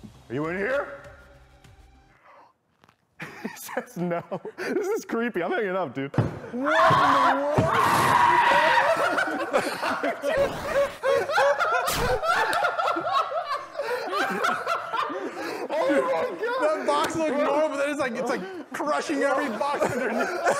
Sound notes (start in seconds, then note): 2.1 wheeze; 6.5 screams and his box transforms into him